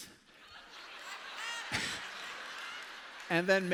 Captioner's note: laughter